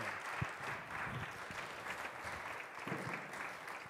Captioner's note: applause